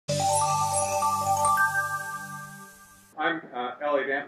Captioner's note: bell chimes